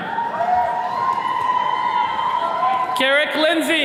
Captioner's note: attendees cheering